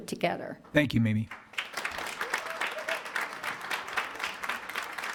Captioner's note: attendees applauding